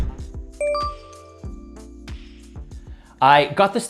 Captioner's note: bell dings